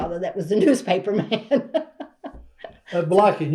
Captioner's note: laughs